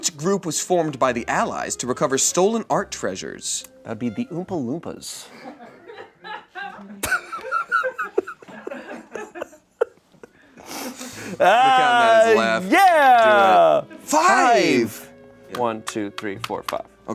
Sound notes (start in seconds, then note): 5.3 everyone laughs